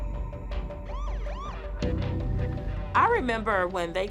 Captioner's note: police siren wailing